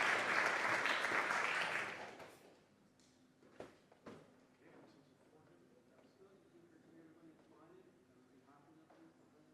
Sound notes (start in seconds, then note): 0.0 applause